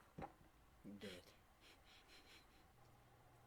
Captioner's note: chuckles